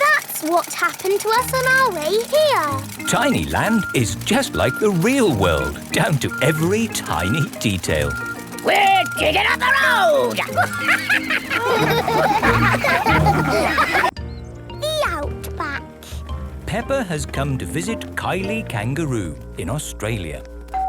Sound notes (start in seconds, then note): 8.7 chuckles; 12.3 all laugh